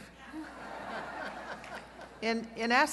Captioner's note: laughter